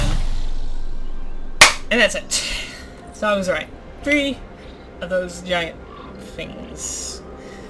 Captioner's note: single clap